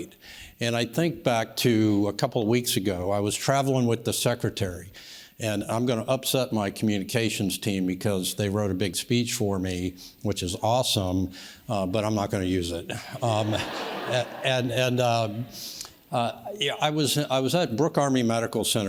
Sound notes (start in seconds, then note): 13.2 audience laughs